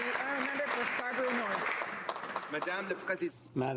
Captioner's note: some Applause